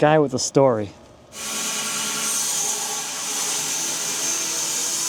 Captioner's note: saw buzzes